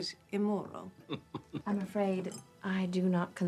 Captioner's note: Ewald laughs